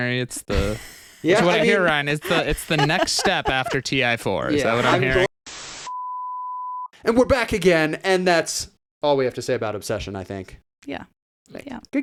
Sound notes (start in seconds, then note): 5.9 beep